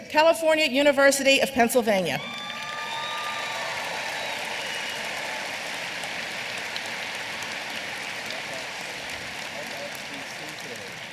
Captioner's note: applause